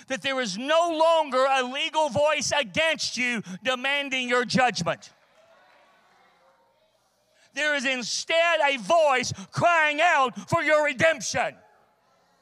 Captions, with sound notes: that there is no longer a legal voice against you demanding your judgment. (congregation cheers) There is instead a voice crying out for your redemption.